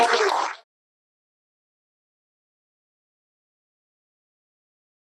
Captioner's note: audience applauding